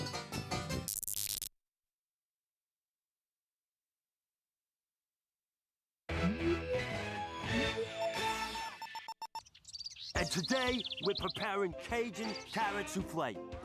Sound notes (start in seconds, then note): 0.9 electronic buzzing